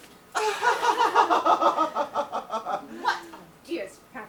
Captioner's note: Algernon and Jack giggle